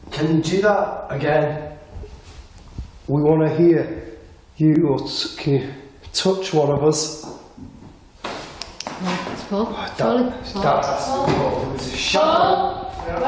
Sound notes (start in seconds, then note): 7.2 knocks faintly